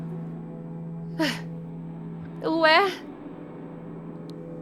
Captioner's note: exhales